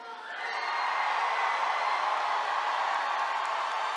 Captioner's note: attendees cheering